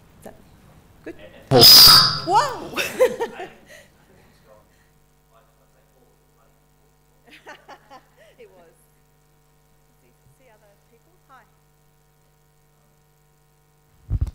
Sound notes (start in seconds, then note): 1.5 loud feedback